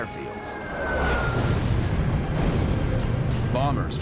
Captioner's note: explosions